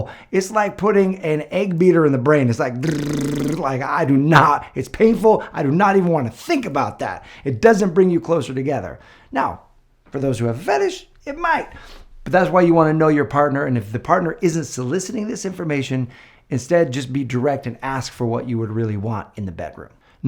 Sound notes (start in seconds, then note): 2.8 imitating egg beater